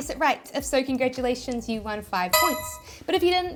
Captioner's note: bell chiming